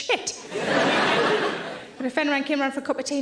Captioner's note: audience laughing